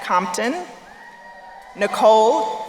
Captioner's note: crowd cheering